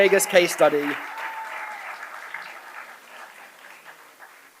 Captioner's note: applause